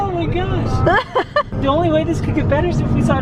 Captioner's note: laughing